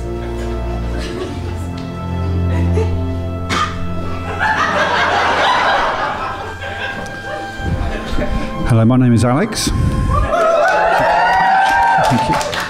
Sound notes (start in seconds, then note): 4.2 audience laughter; 10.2 audience whoops and applauds